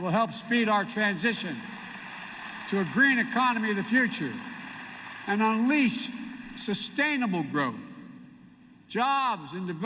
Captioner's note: applause